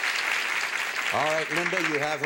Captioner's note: applause